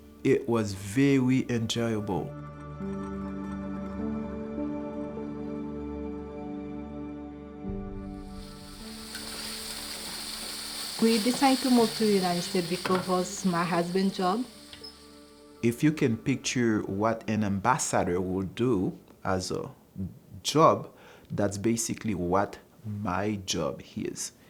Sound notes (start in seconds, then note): 2.8 serene music; 8.1 food sizzling